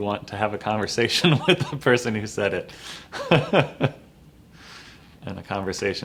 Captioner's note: laughs; laughs